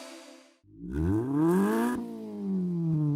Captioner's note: engine revs